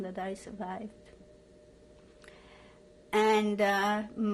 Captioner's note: pauses for 3 seconds